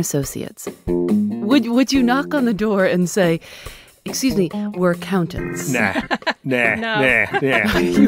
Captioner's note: laughing